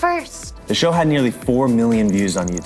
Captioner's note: male Voice